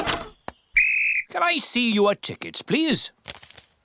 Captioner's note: blows whistle